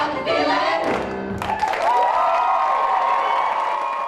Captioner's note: applause